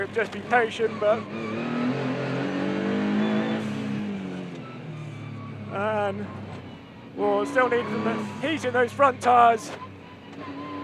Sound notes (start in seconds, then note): 2.2 car engine roaring